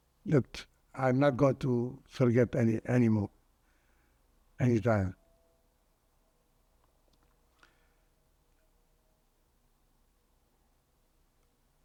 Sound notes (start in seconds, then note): 5.3 pauses 8 seconds